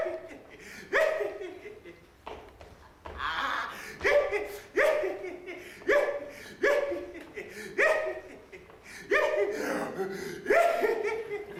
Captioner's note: laughing